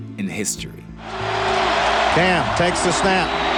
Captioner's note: crowd cheering